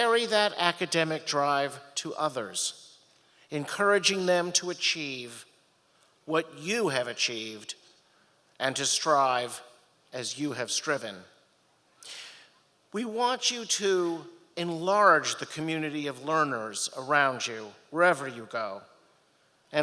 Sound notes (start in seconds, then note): none